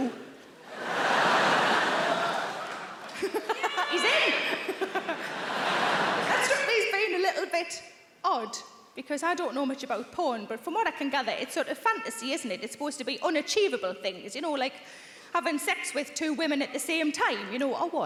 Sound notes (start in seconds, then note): 0.6 audience laughing; 3.7 laughs